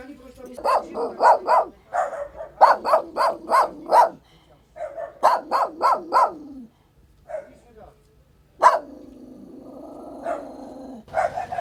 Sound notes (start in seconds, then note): 0.6 dogs barking; 8.6 dogs barking